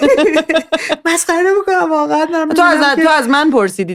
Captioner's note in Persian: خنده